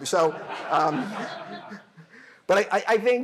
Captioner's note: laughter